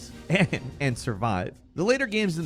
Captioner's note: chuckles